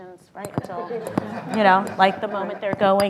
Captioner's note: laughter